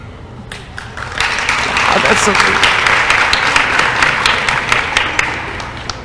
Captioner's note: applause